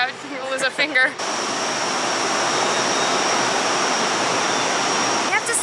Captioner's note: A loud roar from the ovens